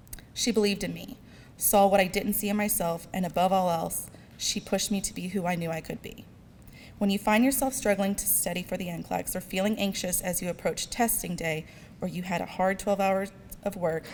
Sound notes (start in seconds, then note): none